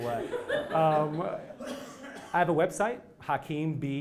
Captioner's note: laugh